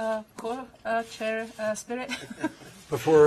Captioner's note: laughter